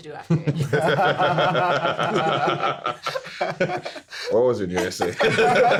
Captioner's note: everyone laughing